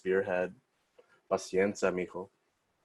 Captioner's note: foreign language